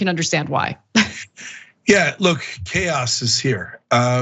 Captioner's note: laugh